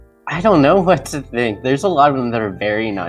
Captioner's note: none